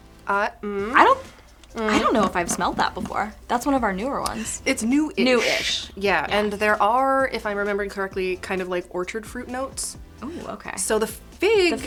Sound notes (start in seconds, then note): 1.2 nails drumming